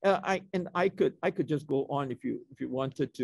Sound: none

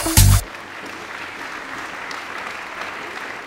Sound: applause

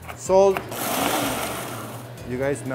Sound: blender whirs

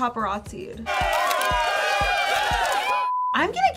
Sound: crowd cheering and shouting; blooper beeps

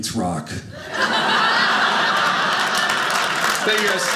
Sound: audience laughing

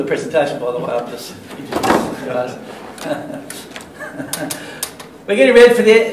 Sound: laughs

